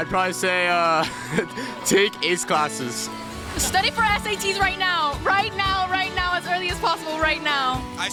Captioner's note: laughs